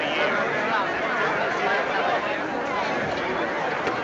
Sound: indistinct chatter

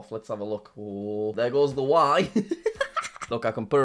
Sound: laughs

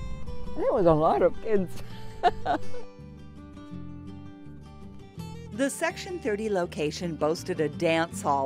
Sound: laughs

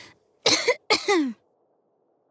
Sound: cough

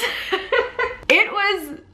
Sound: laughs

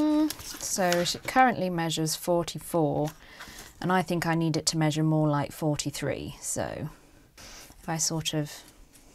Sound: hums a little tune

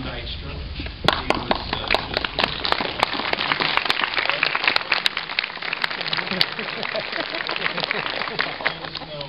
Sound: clapping

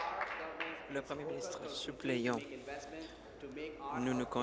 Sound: applause

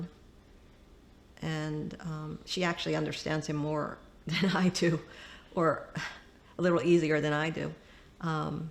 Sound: laughter

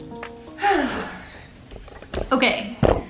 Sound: sighing

